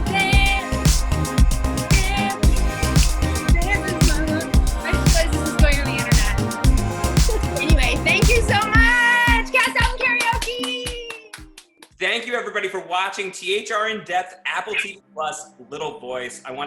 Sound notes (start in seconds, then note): 10.3 loud cheers and claps